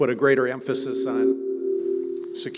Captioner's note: microphone feedback